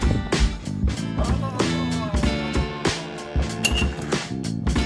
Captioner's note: 80s chase music; footsteps; 80s chase music; groans from Crim; 80s chase music